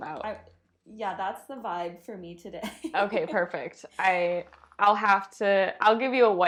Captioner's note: giggles